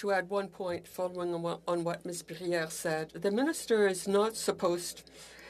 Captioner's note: speaking French